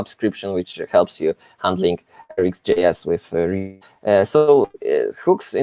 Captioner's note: audio blurs